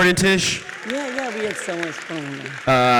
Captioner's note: audience applauds